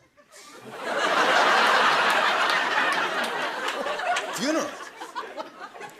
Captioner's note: laughter